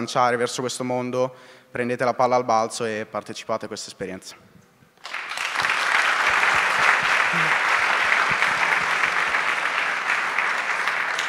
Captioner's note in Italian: Applauso